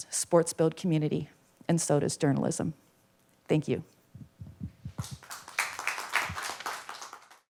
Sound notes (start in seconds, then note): 4.9 applause